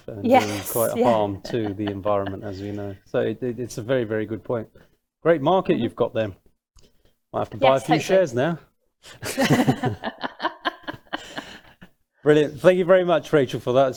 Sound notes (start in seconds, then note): 9.2 both laughing